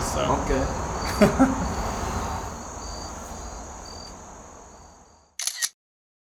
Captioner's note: laughs